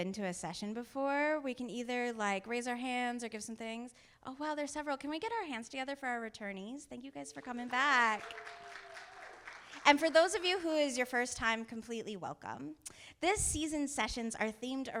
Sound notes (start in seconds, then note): 7.3 audience applauding